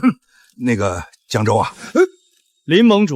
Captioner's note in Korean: 콜록 콜록